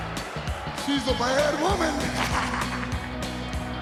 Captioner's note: laugh